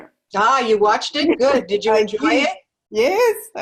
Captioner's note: laugh